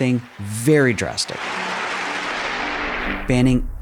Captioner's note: crowd applauding